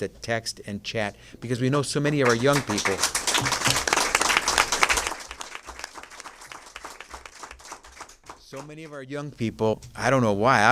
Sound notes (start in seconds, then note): 4.7 applause